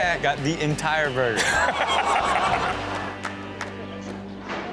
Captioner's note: everyone laughs